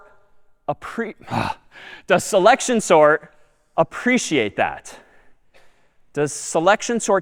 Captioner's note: آه می کشد